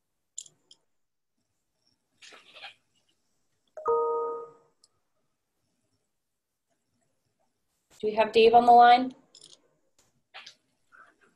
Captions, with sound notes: (chime rings) Do we have Dave on the line?